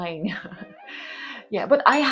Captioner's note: uneasy laugh